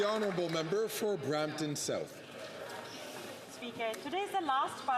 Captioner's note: some Applause